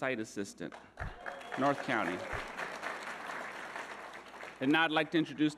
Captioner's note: audience applauding